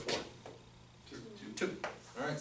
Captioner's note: voiceover